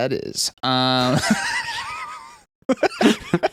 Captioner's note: laughing